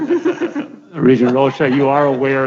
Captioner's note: chuckling